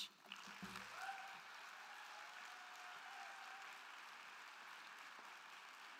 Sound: crowd clapping; crowd cheering

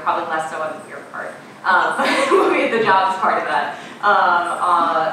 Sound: laughing

